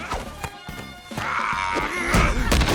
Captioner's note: grunts